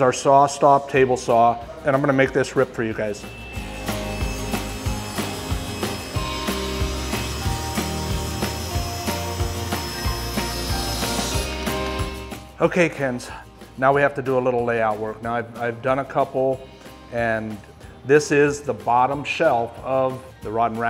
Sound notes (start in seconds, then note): 5.0 upbeat music; 5.0 wood sawing